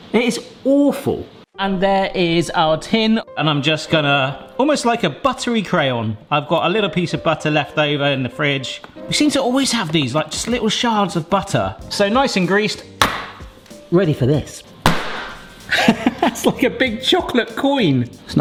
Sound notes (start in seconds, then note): 14.8 batter thudding; 15.6 laughing